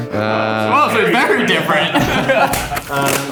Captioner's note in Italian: mormora; risate; si mette i guanti rumorosamente